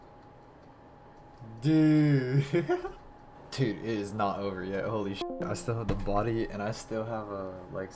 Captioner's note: Discord disconnection sound